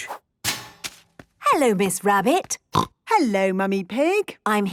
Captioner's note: snorting